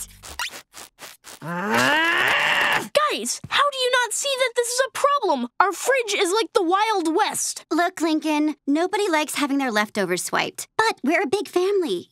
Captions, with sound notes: [groaning] Guys, how do you not see that this is a problem? Our fridge is like the Wild West. Look Lincoln, nobody likes having their leftovers swiped, but we're a big family.